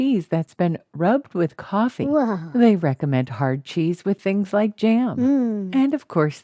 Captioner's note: mmm